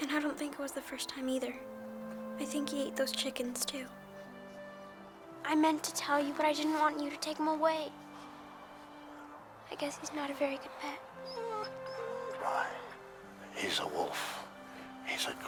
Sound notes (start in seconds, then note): 11.1 Buck whines